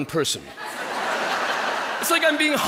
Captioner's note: people laughing